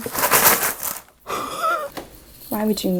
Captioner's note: wheeze